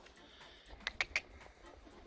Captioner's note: click, click, click